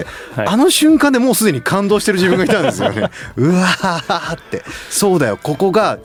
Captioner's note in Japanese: 笑い